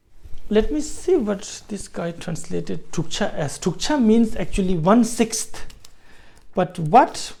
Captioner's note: tibetan